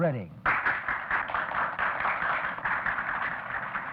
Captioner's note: clapping